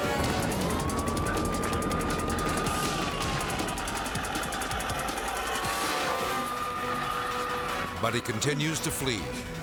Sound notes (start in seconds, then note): 0.3 siren wailing; 0.3 thrilling music; 2.4 rim scraping; 5.6 siren wailing